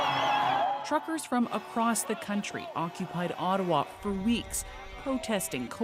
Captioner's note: cheers and Applause